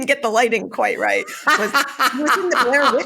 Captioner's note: laughs